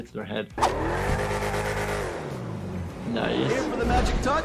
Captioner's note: engine revving